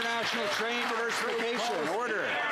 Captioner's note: some Applause